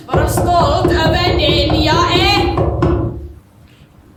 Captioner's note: knocking sound